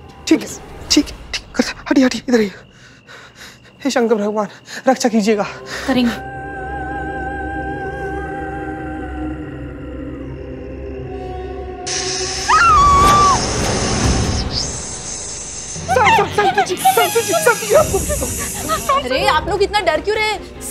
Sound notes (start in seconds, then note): 12.3 screaming; 17.2 screams